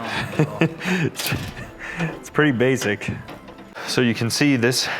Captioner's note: laughs